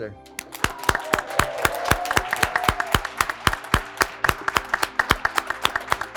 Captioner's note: graduates clapping; graduates cheering